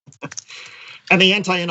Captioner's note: laugh